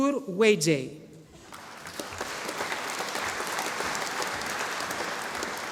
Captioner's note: audience applauding